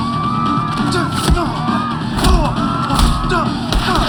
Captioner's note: groaning